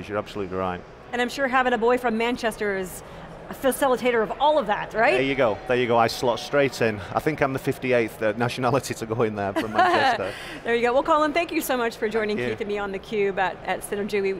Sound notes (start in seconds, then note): 9.6 laughs